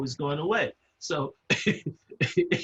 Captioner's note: laugh